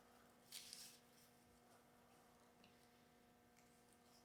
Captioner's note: leaf rustling